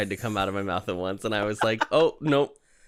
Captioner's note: giggling